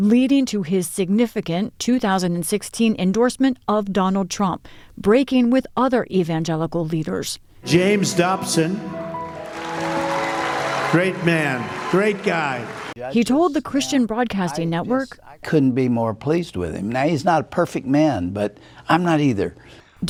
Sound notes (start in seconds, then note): 9.2 cheering